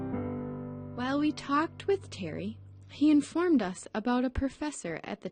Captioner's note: voiceover